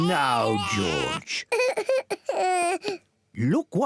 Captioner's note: cries